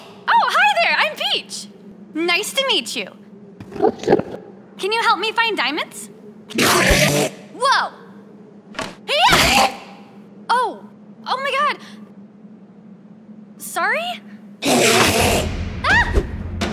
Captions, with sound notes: Oh, hi there! I'm Peach! Nice to meet you! *enderman noise* Can you help me find diamonds? *enderman screech* Woah!! Heyyah!! Oh! Oh my god, Sorry? *screeching intensifies* Ahh!